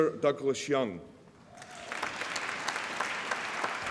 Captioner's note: applause